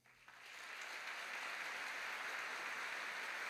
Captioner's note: applause